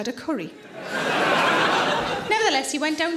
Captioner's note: audience laughing